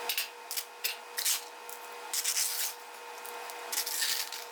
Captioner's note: scoop scraping